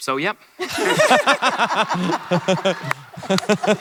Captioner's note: laughter